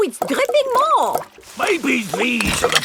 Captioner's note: none